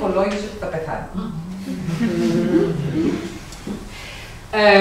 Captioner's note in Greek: ήσυχο γέλιο από το κοινό